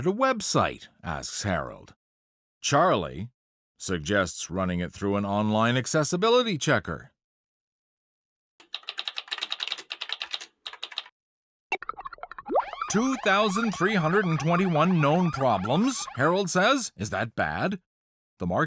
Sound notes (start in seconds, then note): 6.8 typing sounds; 9.2 blip; 12.4 siren wails